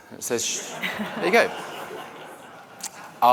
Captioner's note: laughter